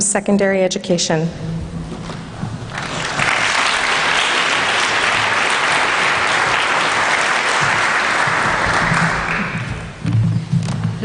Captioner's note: applause